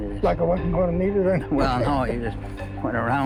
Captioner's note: laughs